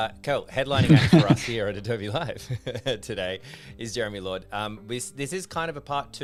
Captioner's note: laughter